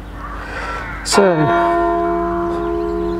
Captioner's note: church bell strikes